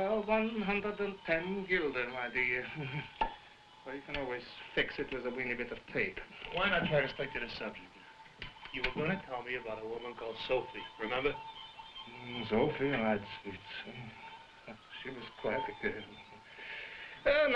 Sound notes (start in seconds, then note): 2.4 chuckling; 3.1 loud popping